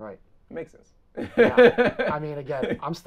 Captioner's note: laughs